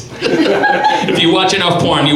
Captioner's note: audience laughs